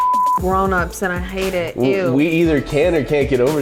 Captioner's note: beep